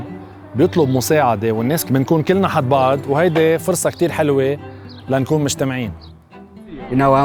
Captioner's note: speaking a foreign language